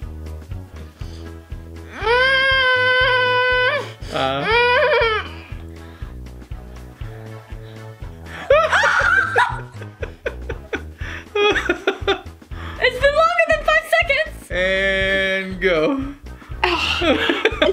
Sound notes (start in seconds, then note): 1.9 groaning; 8.6 screaming; 9.6 dad laughing; 16.6 dad laughing